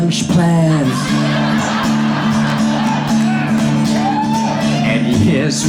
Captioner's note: audience laughs